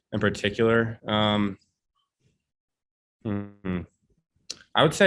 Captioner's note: hums